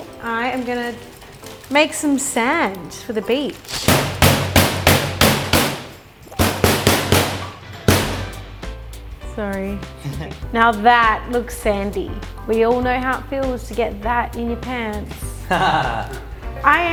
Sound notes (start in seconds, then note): 4.0 clinking sounds; 15.4 laughing